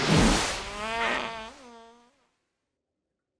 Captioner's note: fart noise